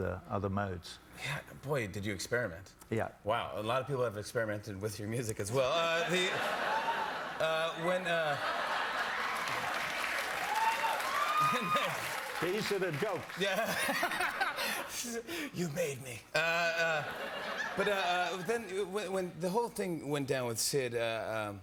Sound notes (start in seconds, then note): 7.0 laughter; 8.8 cheers and applause